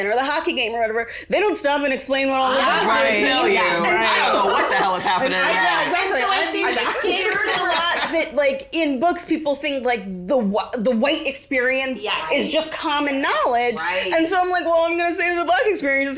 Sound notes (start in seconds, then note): 7.1 laughs